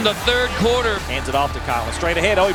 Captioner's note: voiceover